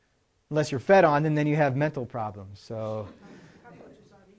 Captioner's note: laughter